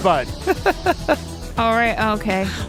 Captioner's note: laughs